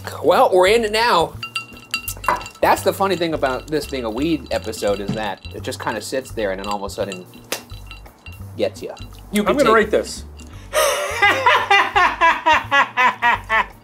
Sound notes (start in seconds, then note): 7.4 claps; 10.7 laughing